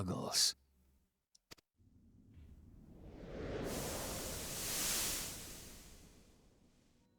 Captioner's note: air whooshing